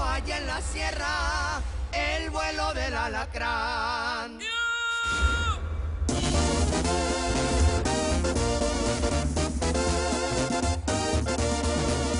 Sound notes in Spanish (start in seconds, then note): 4.4 Grito